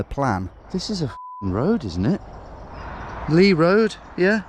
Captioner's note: beeping